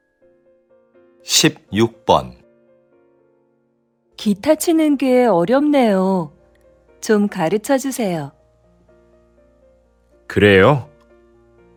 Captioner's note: Korean audio